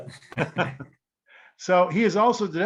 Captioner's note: both laughing